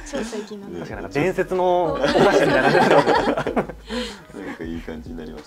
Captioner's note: laughs